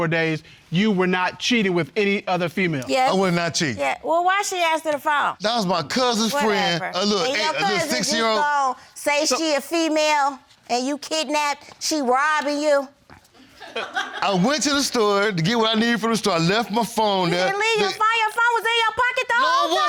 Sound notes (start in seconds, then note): 13.6 audience laughs